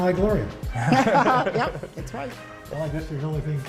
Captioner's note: laughter